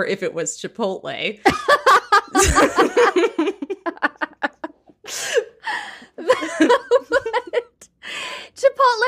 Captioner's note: laughing